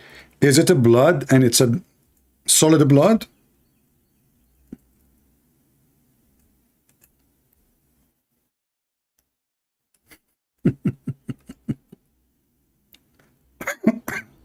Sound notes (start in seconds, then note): 10.6 Gelak